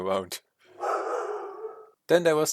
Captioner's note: dog barking